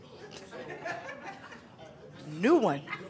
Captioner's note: attendees laughing